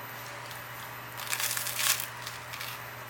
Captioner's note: sizzle